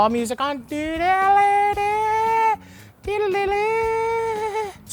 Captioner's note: mumbles random music